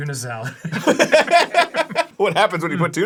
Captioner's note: laugh